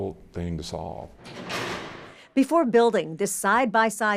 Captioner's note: cell clattering